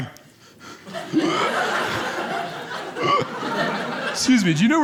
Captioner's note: gasps loudly